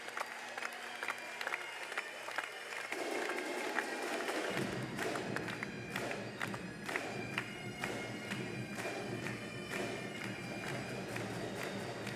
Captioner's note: cheers and applause